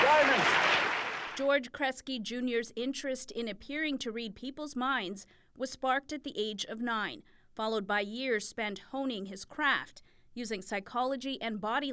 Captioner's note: applause